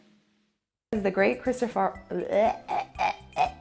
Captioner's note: gagging